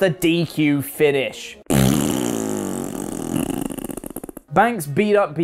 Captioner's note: blows raspberry